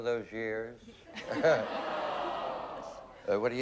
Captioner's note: laughs